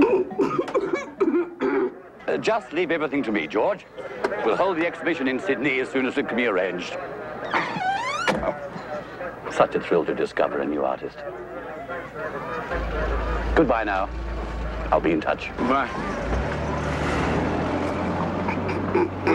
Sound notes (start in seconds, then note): 0.0 Irene laugh-coughs; 7.9 car door slams; 16.8 car rumbling